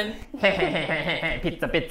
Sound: laughs

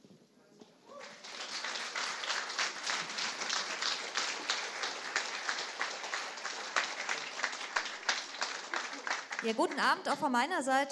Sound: applause

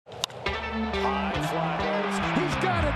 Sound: crowd cheering

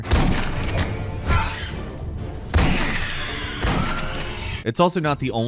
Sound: gunshots; aliens growl

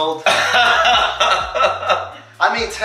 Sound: laughing

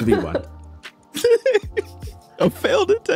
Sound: laughs

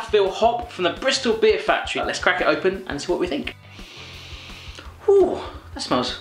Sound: sniffs

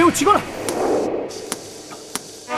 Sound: slapping

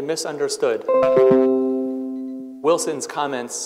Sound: computer notification rings

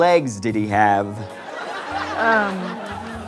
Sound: audience laughter

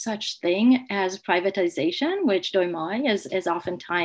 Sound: speaks in foreign language

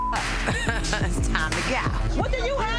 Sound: beep; laughs

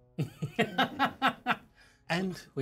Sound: speaker laughs

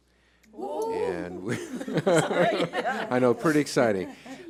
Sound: cheers and laughing

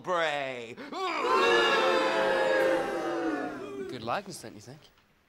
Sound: crowd boos

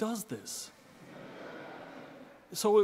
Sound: audience laughing

